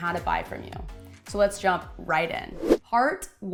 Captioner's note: whooshing